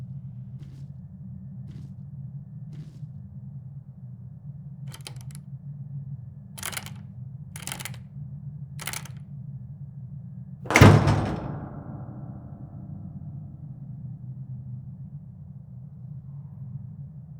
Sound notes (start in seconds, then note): 4.9 door rattling; 10.6 slam!